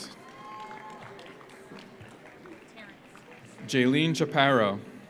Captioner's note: audience cheers; audience applauds